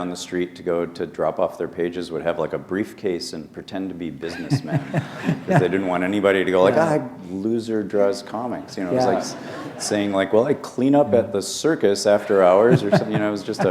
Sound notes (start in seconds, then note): 4.3 laughter